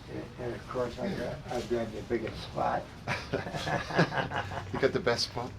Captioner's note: laughing